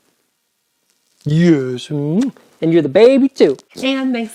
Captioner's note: smooches